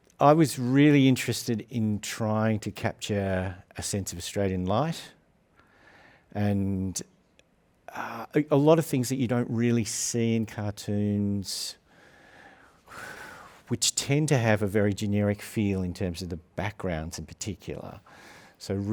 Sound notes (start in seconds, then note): 12.7 sighs